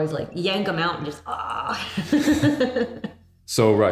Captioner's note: laughing